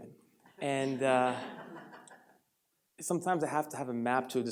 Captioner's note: audience laughs